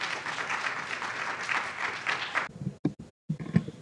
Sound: audience applauds

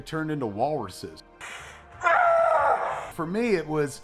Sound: screaming

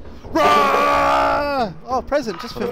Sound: screams

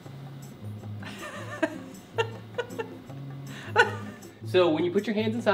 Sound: laughing

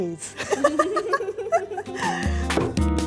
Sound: laughing

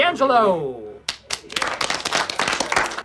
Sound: applause

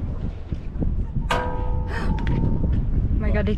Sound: metal bang

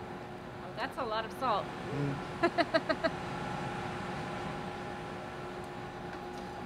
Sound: giggles

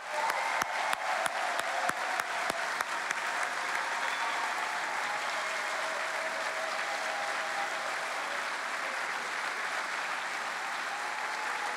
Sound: cheering

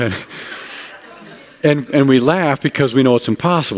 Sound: laughter

